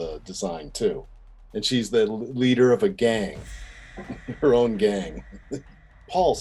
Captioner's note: laughing